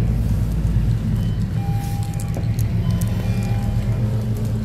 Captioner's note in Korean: 하차벨 소리